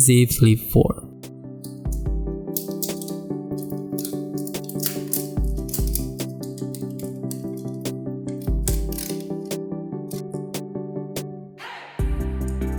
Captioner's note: unpacking sound